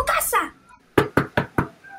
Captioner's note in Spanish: knockknockknockknock